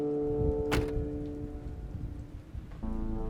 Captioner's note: car door closes